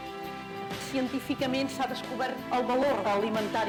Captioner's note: speaking spanish